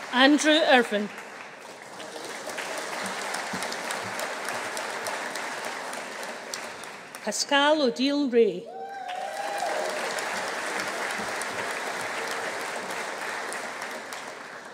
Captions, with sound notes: Andrew Irvine. (AUDIENCE CHEERING) Pascale Odile Rae. (AUDIENCE APPLAUDING) (AUDIENCE CHEERING)